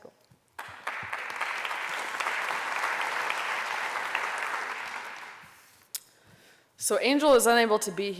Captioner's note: applause